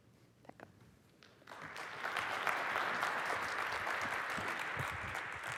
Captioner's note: applause